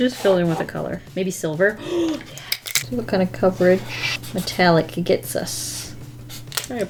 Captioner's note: gasps